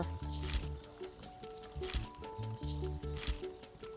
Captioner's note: camera clicking